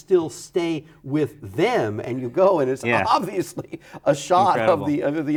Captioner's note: laughs